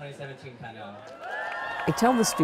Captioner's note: applause